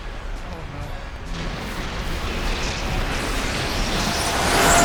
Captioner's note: roaring, Crashing